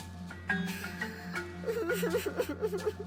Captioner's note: crying